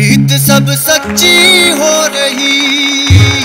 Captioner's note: Everyone clapping